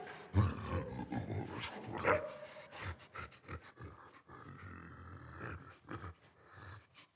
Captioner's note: creature grunting